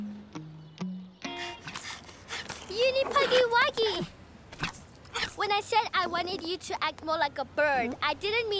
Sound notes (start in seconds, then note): 1.5 panting